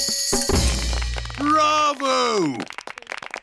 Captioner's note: applauding